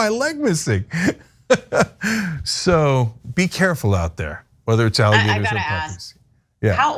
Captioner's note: laugh